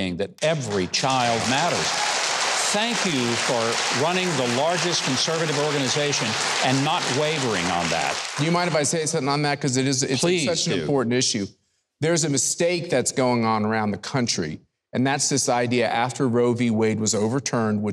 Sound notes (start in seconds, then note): 1.6 audience applauding